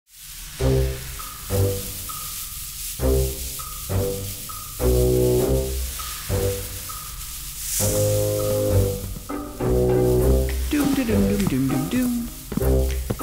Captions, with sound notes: [ Slithering Sounds ] [ Snake Hiss ] Doom da doom da doom doom doom...